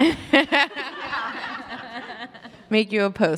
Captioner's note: all laugh